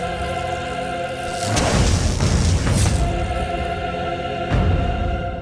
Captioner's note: electricity buzzing